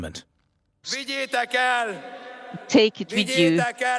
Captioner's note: crowd cheering; speaking Hungarian